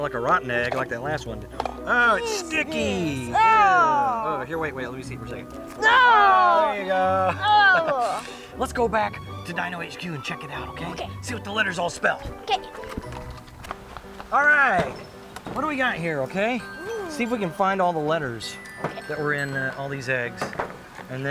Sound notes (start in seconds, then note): 7.1 groaning; 13.5 fun music